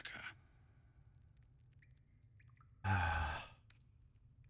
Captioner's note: sigh